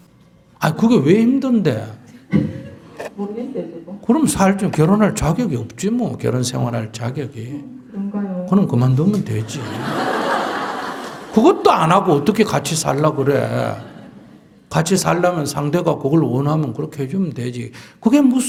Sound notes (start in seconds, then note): 9.3 audience Laughter